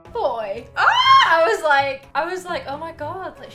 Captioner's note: gasps